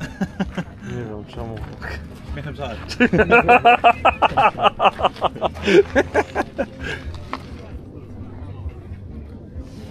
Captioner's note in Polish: śmiech